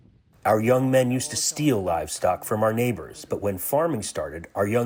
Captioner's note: through translator